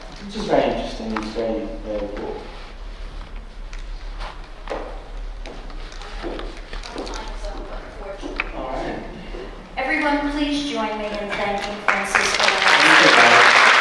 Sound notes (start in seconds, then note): 11.3 applause